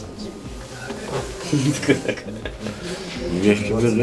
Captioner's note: laughing